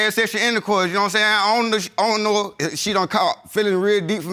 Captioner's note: stuttering